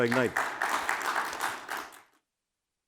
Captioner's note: applause